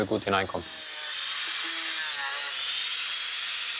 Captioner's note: whirring noises